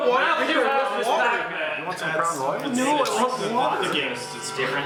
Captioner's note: all yelling at once